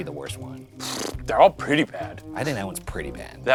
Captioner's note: blowing lips